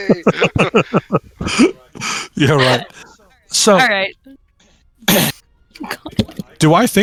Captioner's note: laughter